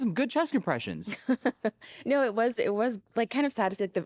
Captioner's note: laughs